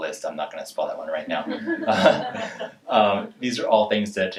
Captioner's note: laughing